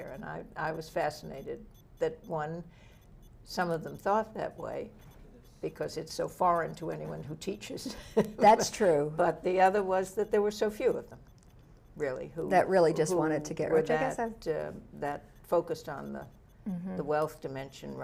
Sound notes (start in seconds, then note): 7.8 laughs